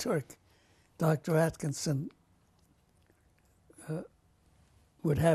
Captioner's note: pauses for 3 seconds